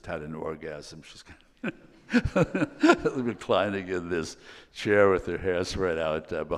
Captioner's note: laughs